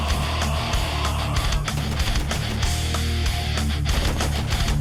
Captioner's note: heavy metal music; gunshots firing